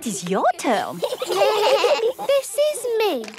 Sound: children giggling

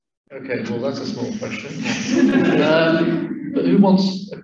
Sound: laughter

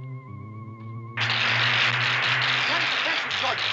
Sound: electrical crackling

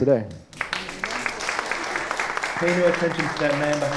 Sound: audience applauding

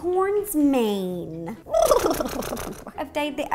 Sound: lip flapping

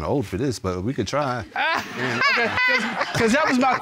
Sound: laughing

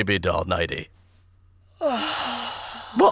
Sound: sighs

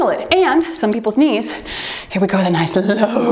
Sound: timer beeps

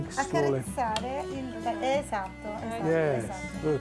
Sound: speaking Italian

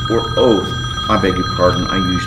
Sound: phone ringing

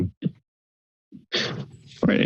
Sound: silence

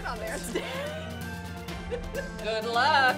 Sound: laughing

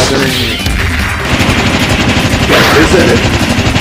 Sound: rapid Clashing Punches

